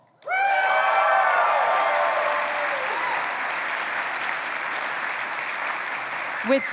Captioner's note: applause